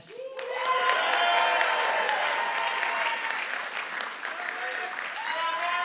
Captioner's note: applause